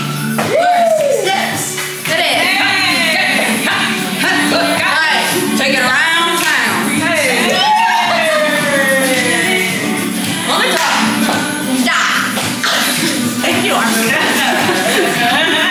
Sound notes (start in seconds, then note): 0.3 upbeat country hip-hop music; 10.7 claps